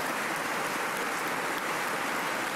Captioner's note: applause